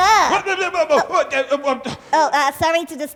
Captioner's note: Oswald gasping and grunting